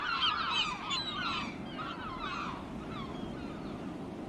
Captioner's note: seagulls